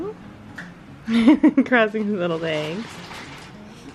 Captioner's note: chuckles